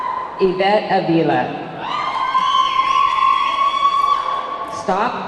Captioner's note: audience clamoring